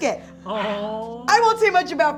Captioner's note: swooning